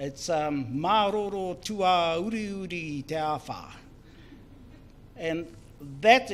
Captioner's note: speaks in foreign language